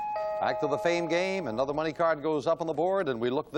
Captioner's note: bell